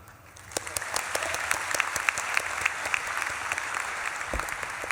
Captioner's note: audience claps and cheers